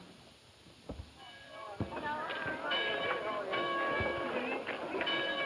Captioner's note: group chatter